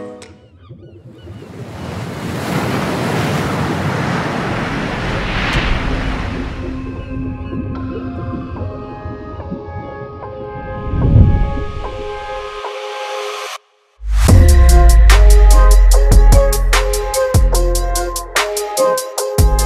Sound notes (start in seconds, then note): 0.6 water splashing; 6.5 soft electronic music